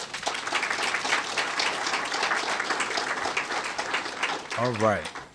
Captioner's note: applause